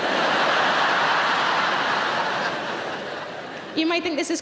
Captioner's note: audience laughing